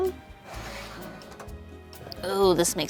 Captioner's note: metal scratches